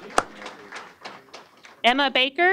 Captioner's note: applause